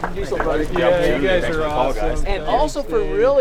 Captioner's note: all congratulating each other